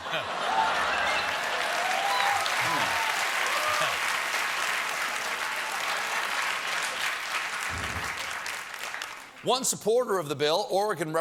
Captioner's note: cheers and applause